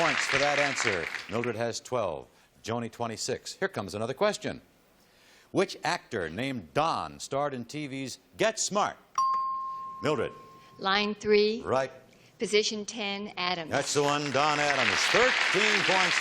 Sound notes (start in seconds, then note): 9.2 chime